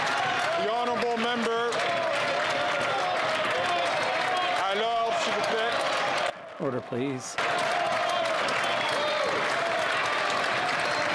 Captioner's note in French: voix de l'interprète